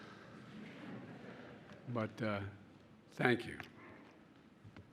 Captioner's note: laughter